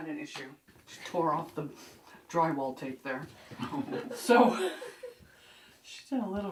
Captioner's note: laughter